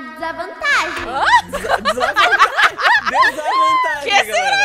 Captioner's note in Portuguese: Risadas